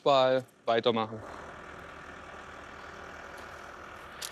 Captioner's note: near excavator humming